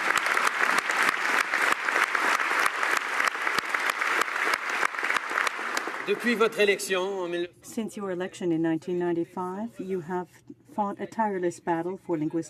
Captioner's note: applause